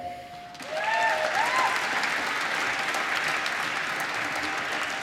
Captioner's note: applause